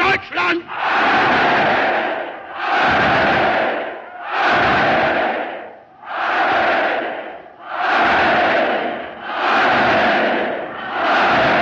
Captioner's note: cheering